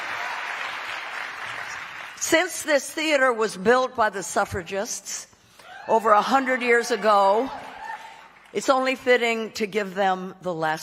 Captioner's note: cheering